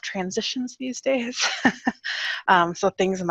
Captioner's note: laughs